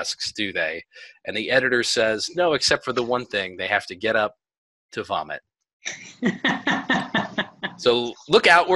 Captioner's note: laughter